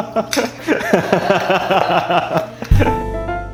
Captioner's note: laughing